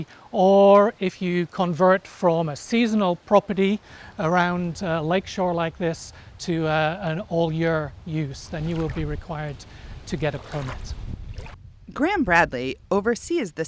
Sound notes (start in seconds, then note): 11.0 water lapping